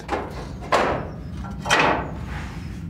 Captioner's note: clattering